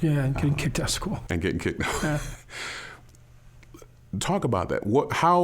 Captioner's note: both chuckling